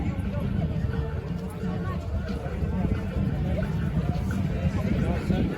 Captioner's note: crowd chattering indistinctly